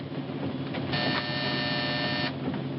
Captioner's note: buzzing